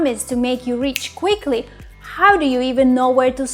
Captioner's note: snaps